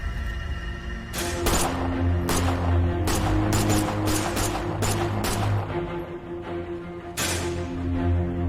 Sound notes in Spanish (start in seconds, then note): 1.2 Disparos